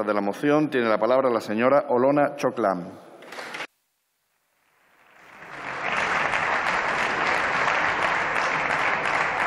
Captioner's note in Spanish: Aplausos